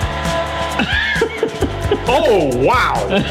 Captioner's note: wheezes